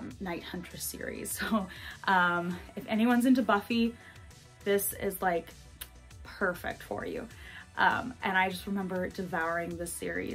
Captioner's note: kiss